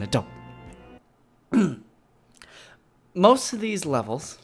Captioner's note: clears throat